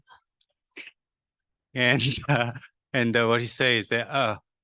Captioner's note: chuckles